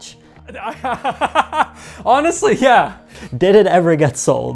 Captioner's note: laughs